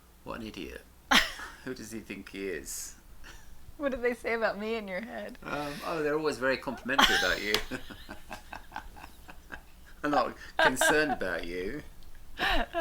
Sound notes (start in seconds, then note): 1.1 laughs; 7.8 both laugh